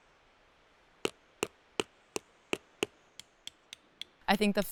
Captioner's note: rock pounding